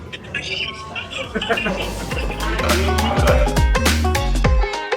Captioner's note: laughs